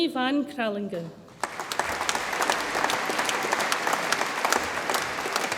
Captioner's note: audience applauds